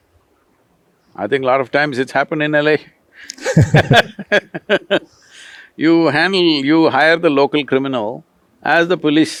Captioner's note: laughter